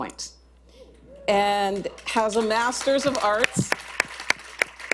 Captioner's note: applause